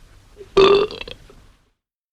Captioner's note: burp